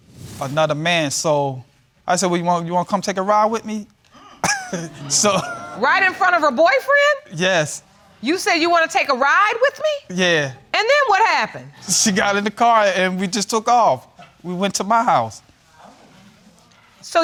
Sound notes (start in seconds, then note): 4.1 audience member exclaims; 4.2 chuckles; 15.7 audience murmuring